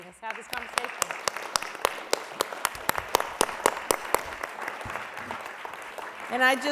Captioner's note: applause